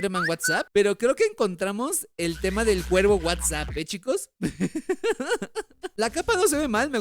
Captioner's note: laughs